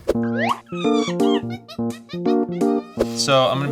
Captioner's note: monkey chatter